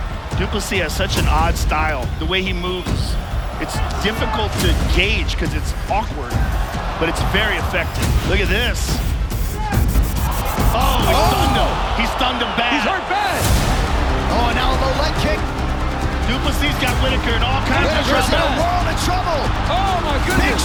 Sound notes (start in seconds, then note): 9.9 crowd exclaims